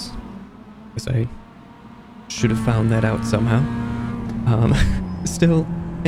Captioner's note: chuckles